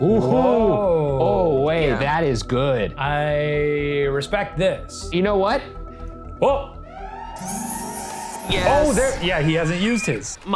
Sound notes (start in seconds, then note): 7.0 sirens blaring